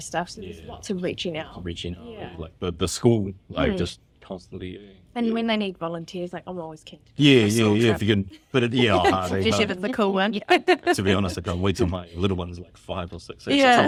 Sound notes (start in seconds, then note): 7.4 laughs